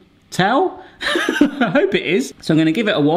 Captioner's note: laughs